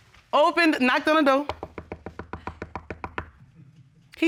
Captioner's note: knocks on podium